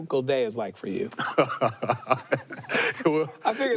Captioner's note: laughs